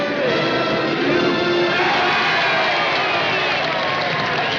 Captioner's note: crowd cheering, applauding, and whistling